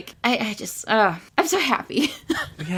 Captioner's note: sighs